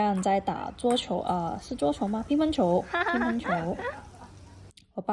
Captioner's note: laughs